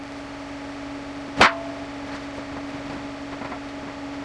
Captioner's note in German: Maschine läuft